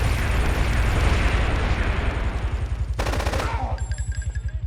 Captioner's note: gun firing